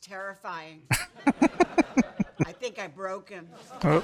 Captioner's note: chuckling